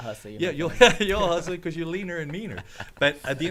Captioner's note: laughs